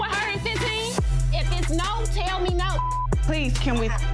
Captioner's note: beep